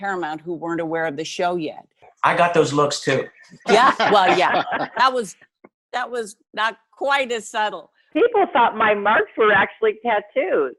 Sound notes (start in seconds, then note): 3.3 laughs